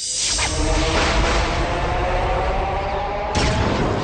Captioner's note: swirling, thunder